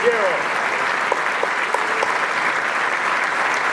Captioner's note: applause